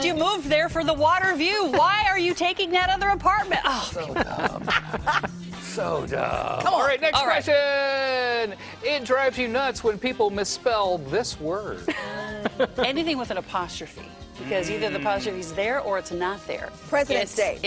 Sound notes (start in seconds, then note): 14.4 laughing